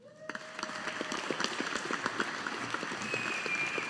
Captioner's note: audience applauding